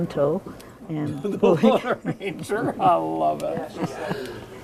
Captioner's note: laughing